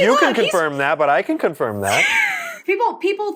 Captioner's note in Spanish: risas